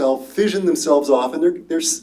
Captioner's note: none